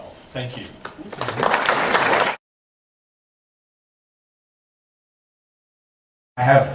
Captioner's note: applause